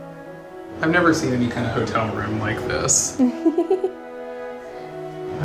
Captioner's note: laughs